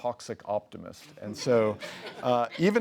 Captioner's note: laughs